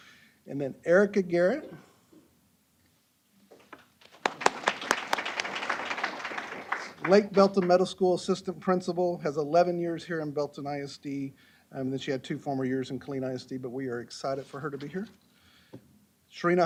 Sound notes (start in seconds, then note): 3.9 applause